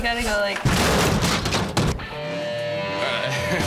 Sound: crashing; guitar rock

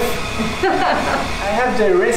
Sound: laughs

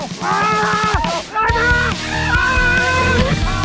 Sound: all screaming

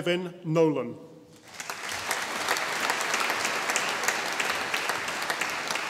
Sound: audience applauding

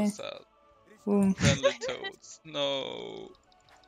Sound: haha

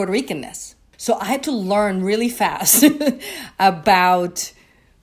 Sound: chuckling

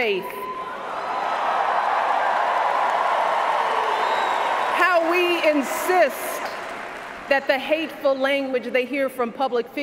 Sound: cheers, applause

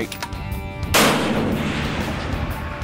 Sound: gunshot

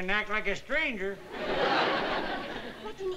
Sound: laughter

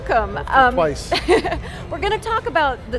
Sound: laughing

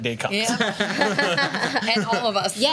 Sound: laughs

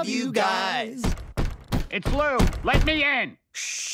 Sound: knocking

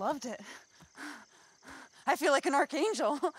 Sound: Becky breathing heavily

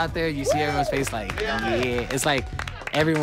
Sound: all clapping, cheering

